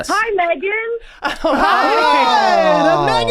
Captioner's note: everyone cheers